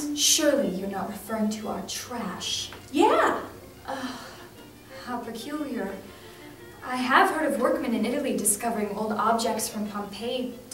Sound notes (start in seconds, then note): 3.8 sighs